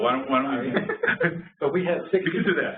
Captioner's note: laughter